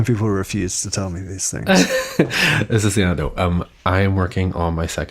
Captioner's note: he laughs